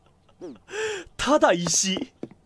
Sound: breathes

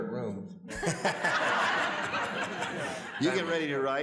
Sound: audience laughs

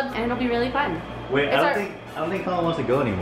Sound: none

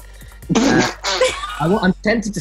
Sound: laughing

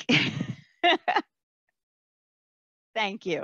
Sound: laughs

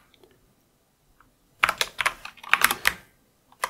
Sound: typing

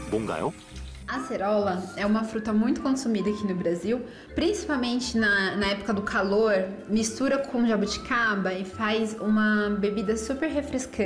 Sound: voiceover

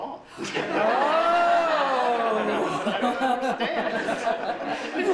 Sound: laughter

